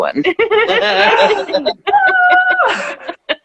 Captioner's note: laughing